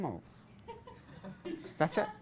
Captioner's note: class laughs